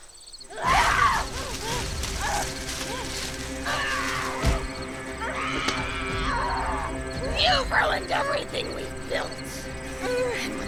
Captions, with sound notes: (Kathleen screams) (dramatic music) - You've ruined everything we've built,